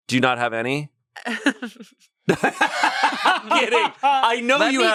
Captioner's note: everyone laughs